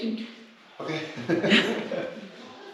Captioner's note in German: lacht